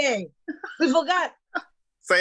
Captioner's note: chuckling